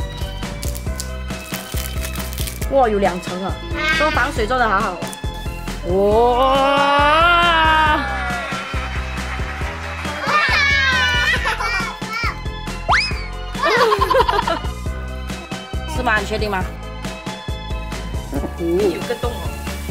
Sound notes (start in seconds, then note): 8.2 clapping